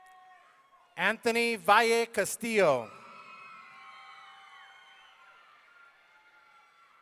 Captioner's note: audience cheering